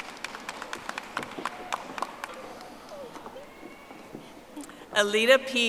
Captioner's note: audience applauding